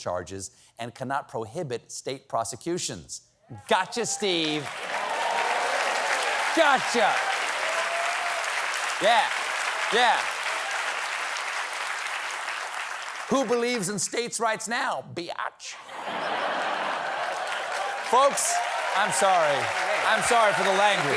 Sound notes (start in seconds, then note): 12.1 applause; 15.8 laughter